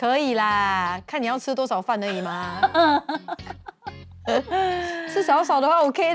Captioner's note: haha